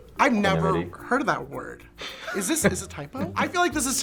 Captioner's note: laughs